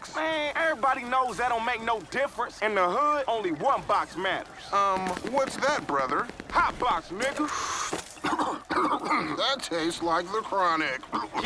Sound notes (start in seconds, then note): 6.4 blows; 7.2 coughing